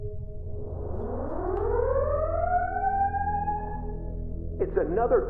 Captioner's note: alarm sounds